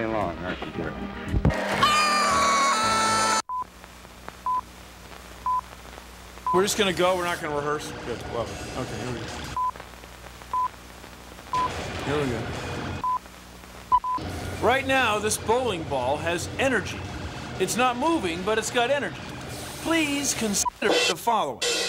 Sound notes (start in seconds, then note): 2.3 <i> yelling</i>